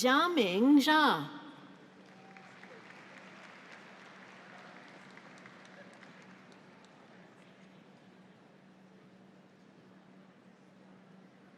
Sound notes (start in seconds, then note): 2.0 audience applauds